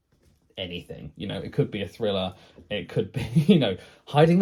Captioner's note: laughs